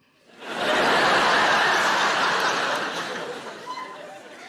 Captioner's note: audience laughing